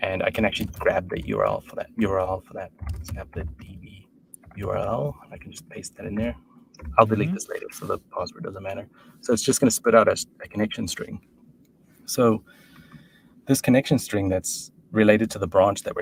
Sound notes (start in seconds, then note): none